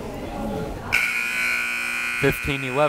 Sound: buzzer

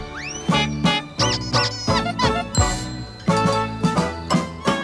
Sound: honks, squeaks, ding

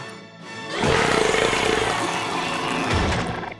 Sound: burping

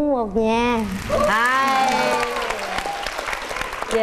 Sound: clapping hands

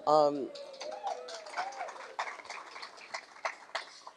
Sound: applause

